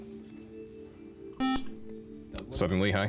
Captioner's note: beep